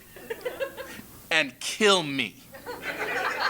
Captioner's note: laugh